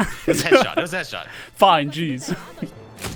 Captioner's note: laughter